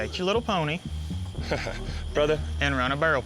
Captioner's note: chuckling